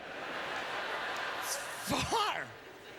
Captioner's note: audience laughter